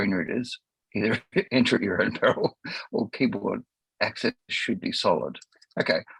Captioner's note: laughs